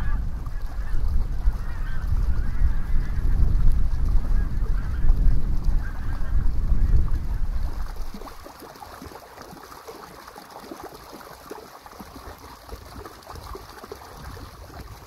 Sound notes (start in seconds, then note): 3.0 overflying ducks sound